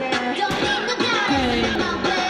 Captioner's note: bang